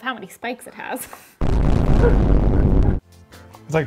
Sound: static hisses; upbeat music

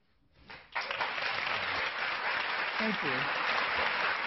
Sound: clapping

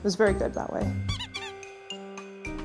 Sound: squeak, squeak

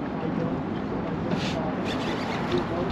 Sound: squeal; reel winding

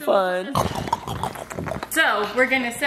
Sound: makes eating noise

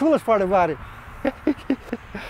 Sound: laughs

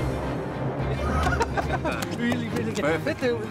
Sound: they laugh

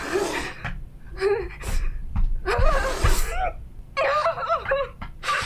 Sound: frustrated crying

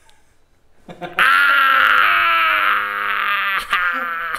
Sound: laughs; screams

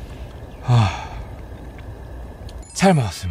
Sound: sigh with a full stomach

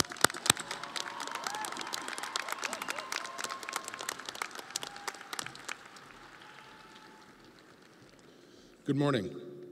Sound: audience applauding

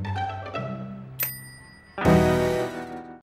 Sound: bell dings

